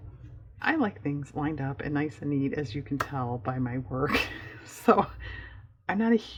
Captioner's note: laughs